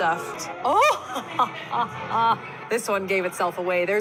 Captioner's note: laughing